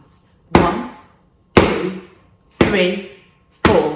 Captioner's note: hard slap; hard slap